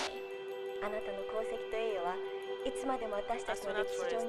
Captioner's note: woman #1 speaking japanese; woman #2 speaking japanese